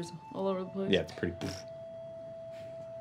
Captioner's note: blows out lips